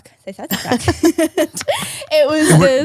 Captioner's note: laugh